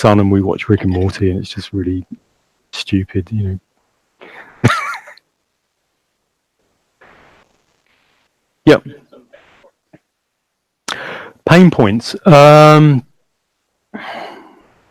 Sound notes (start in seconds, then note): 4.3 laughs loudly